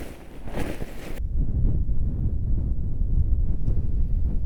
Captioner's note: wind blowing